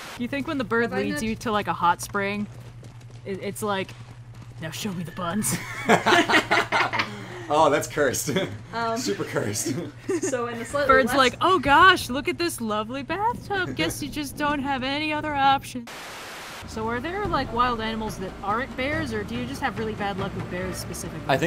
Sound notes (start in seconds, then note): 5.4 all laugh; 8.2 laughing; 8.2 laughs; 15.8 Static